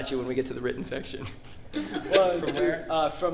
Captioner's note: laughs